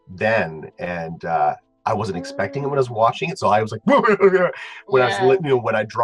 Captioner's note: cry sound